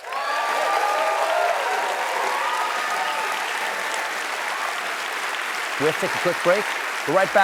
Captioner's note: cheers and applause